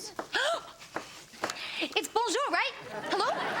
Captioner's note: gasps